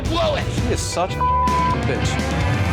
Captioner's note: beep